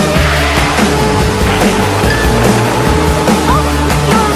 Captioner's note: crash!